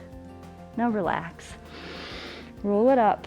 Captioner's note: exhales; inhales